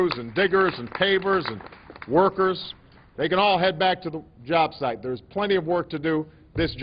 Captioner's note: applause